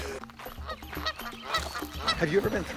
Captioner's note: geese honking